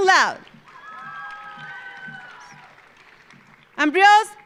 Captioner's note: audience applauding; audience cheering